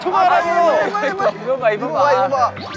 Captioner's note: laughing